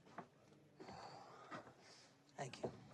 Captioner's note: sighs